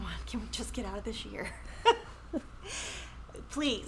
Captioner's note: chuckles